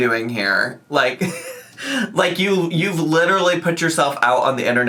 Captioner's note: laughs